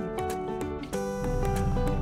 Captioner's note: traffic roaring